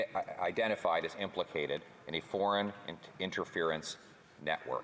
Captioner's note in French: voix de l'interprète